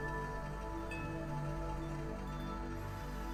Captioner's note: wind chimes; water boiling